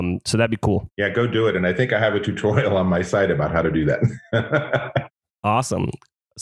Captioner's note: laughs